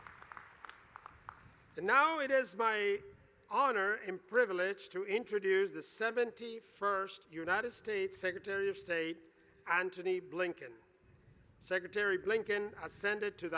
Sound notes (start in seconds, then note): 0.0 applause